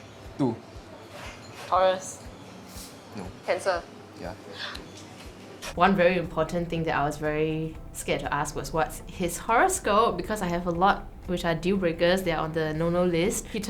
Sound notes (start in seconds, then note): 4.6 claps